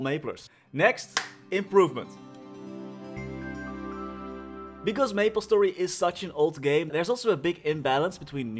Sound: clap

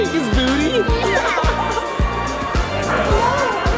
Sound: laughing

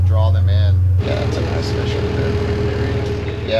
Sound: boat enging running

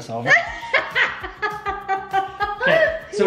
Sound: laughs

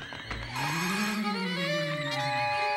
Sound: moaning

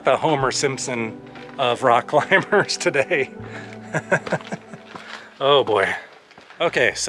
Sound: laughter

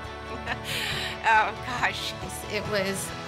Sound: laughing

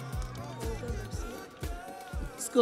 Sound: crowd cheering

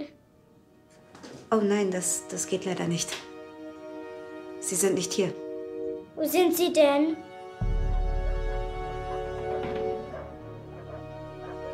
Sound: alarm wails; dramatic music

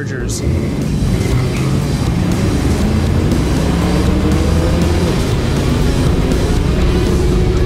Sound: engine revving; rock music continues

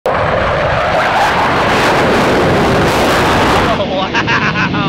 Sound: jet engine roaring

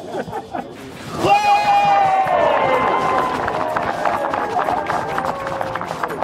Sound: crowd cheers and applauds

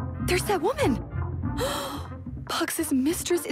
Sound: gasp

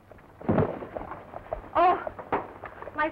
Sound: suitcase thuds

